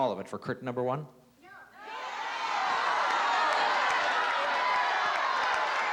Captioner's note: audience yelling